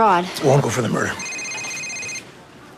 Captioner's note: cellphone ringing